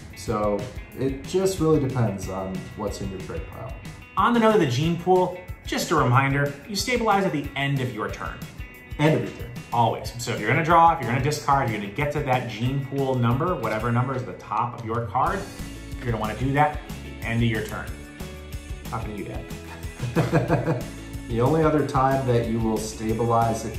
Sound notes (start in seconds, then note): 19.7 laughs